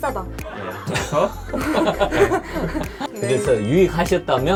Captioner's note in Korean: 웃음